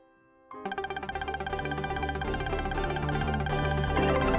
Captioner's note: festive Video Game Sounds